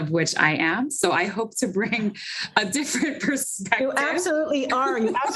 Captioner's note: laughts